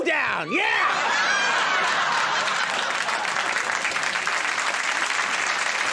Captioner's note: audience cheering